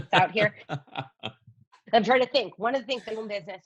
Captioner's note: laughs